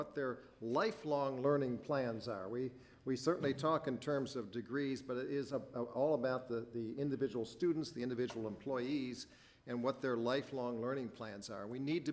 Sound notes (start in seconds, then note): none